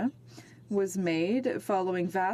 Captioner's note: speaking in French